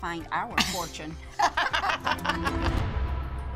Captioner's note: laughter